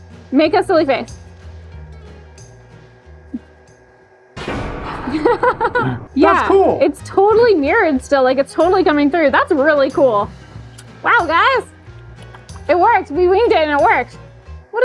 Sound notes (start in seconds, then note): 1.7 smooth music; 4.6 dramatic music; 4.9 laughs